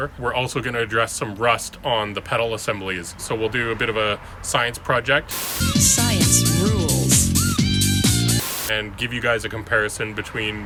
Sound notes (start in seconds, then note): 5.3 TV hissing; 5.4 upbeat techno music